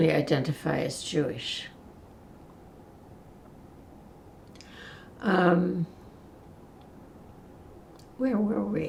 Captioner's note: pauses 6 seconds